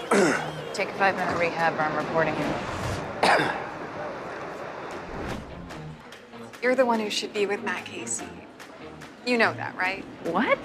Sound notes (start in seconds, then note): 3.2 coughs